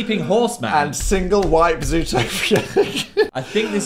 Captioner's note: laughs